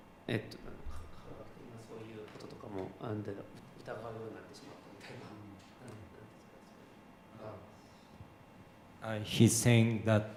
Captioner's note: speaking japanese